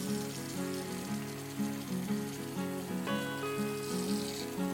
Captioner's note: water sloshing